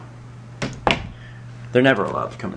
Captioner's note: door shuts